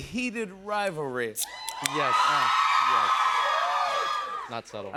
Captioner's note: cheers and applause